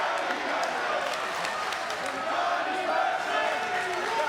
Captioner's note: crowd chanting